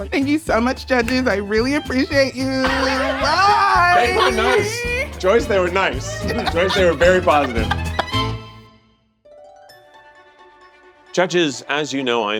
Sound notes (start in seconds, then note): 2.6 all laughing; 5.9 laughing; 9.6 majestic music